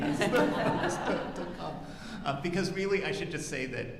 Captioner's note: audience laughing